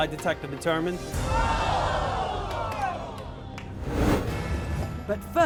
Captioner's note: audience groans